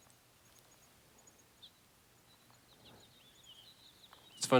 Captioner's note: birds chirping